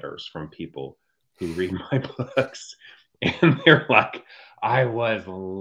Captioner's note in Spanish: risas